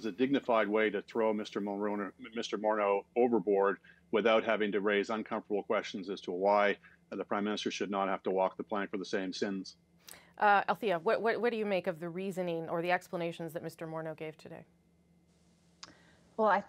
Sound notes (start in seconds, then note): none